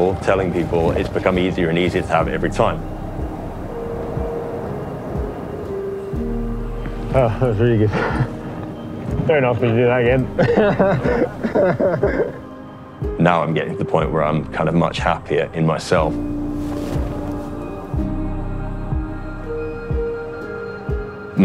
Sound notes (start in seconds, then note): 4.7 optimistic, simple notes; 7.7 laughs; 10.2 laughs; 17.1 optimistic, simple notes